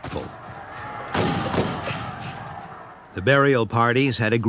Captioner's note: guns bang